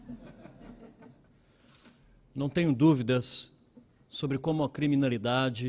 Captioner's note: laughing; speaking Portugese